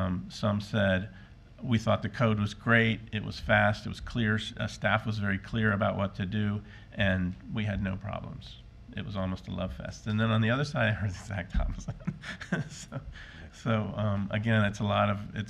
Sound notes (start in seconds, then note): 12.6 laughing